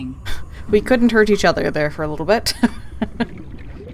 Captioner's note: laughs